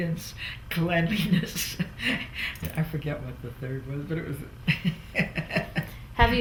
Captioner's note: laughs